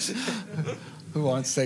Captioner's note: laughter